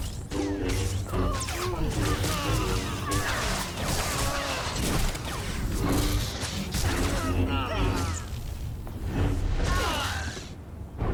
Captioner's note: gunfire